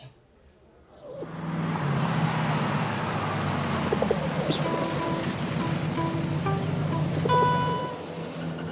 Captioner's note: car engine sounds